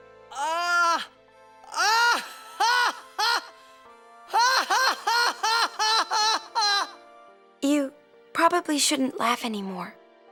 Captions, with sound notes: Uh... [loud, forced laughter] [laughter continues] - You probably shouldn't laugh anymore.